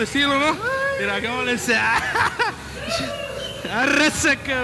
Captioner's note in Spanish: risa